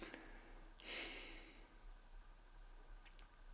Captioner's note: sighing